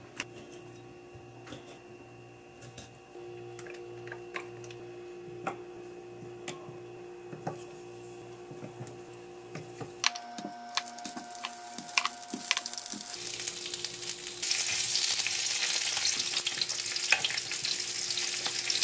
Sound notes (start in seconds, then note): 13.4 frying up